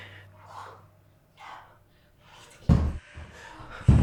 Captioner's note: all gasping